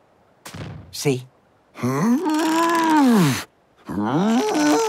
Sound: straining

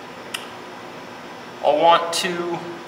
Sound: clicks

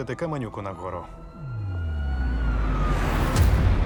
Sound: sirens wailing

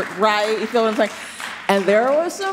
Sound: scattered applause

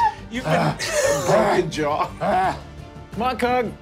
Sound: breathes heavily

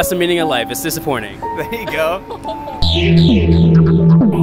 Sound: laughs

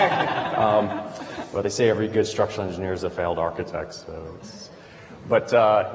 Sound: laughter

